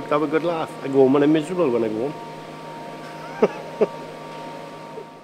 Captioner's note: laughs